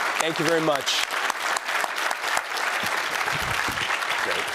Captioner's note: applause